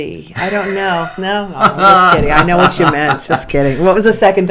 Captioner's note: laughter